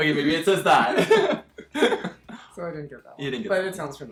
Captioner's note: both laughing